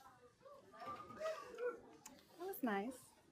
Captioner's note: audience hoots